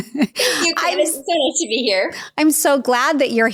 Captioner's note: laughs